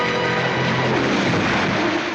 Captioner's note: crashing